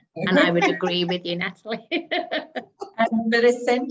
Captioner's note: chuckling